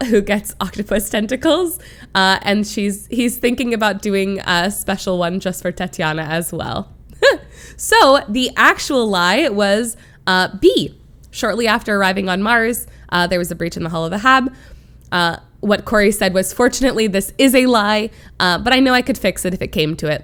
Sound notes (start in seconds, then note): 7.1 chuckles